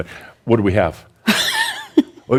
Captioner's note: chuckles; Adamus chuckles